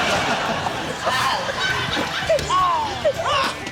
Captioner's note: laughter; all exclaim